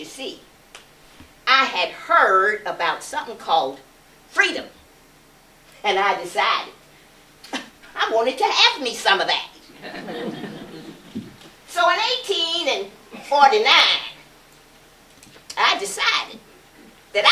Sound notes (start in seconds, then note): 9.7 laughter